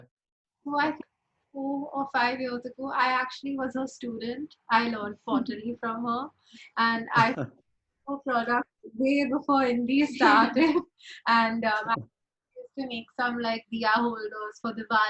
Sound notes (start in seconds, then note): 7.2 chuckles; 10.7 chuckles